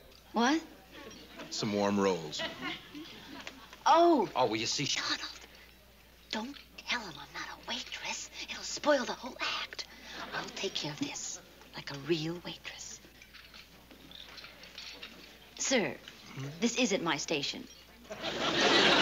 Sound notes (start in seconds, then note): 5.1 quietly